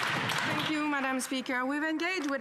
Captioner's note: some Applause